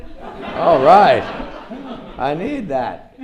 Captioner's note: audience laughs